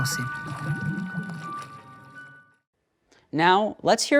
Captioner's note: water bubbling